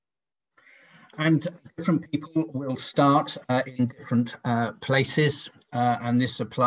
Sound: audio distorts 10.07

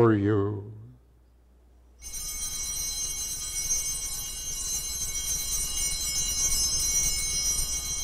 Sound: bells ringing

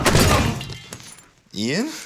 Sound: crashing

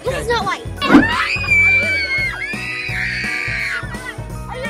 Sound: laughing; kids screaming

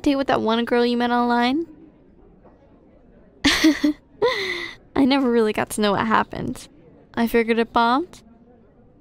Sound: laughs

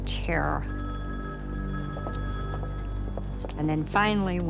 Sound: phone rings

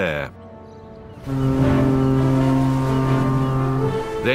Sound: horn blowing

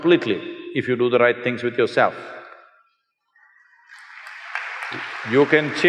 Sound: applause

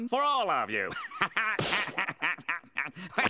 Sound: laughing

